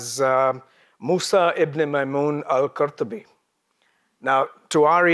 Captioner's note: speaks in a foreign language